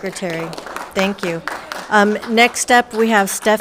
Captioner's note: crowd applauding